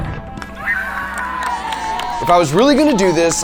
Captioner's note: people cheering